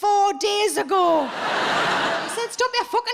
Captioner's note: audience laughs